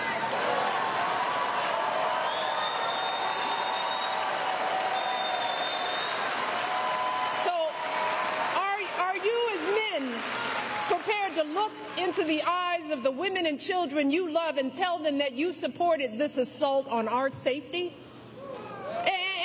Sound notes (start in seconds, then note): 3.6 applause